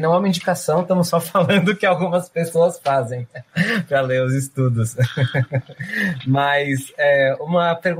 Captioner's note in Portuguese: risos